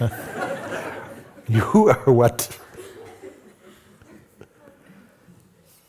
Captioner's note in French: rires